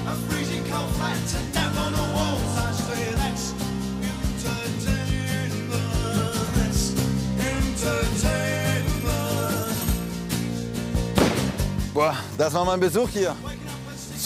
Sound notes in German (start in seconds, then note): 1.9 Lockere Musik; 11.1 Schuss